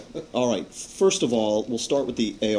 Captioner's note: laughter